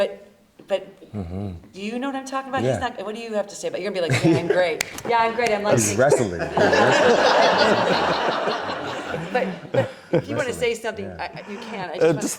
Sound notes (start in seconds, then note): 5.9 audience laughs